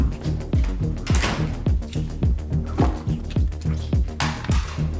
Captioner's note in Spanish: Portazo